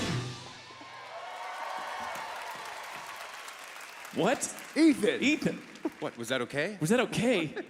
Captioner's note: cheers and Applause